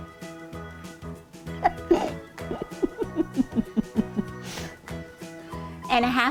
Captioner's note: upbeat music; laughing